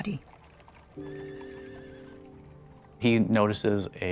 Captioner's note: horse whinnying